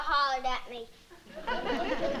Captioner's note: laughter